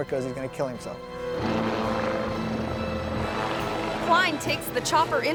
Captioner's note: helicopter revving; propellers rattling